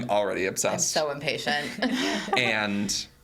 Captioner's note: laughs